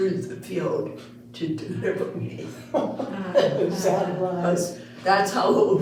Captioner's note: all Laughing; laughing